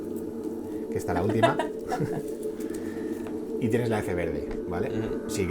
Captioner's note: chuckles